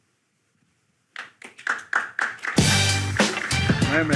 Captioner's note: audience clapping; upbeat music